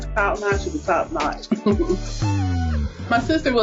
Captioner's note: chuckles